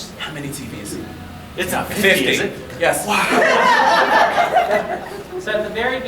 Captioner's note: audience laughing